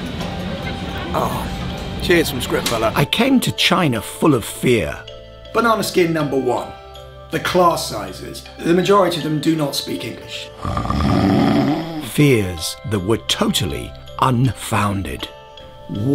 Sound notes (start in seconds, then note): 10.5 snoring